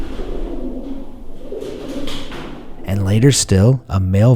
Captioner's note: pigeons cooing